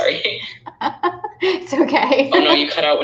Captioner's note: laughing